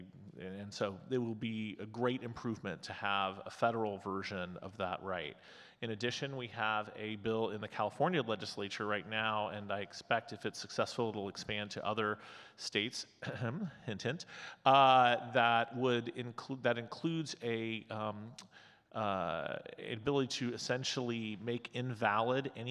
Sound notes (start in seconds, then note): 13.3 clears throat